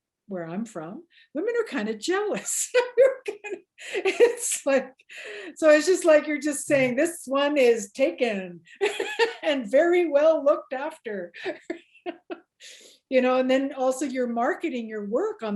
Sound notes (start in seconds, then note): 3.4 laughs